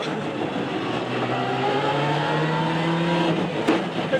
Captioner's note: engine rasping